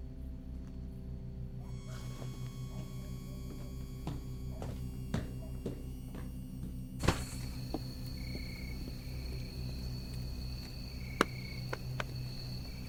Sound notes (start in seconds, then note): 0.2 dramatic music; 8.6 insects chirping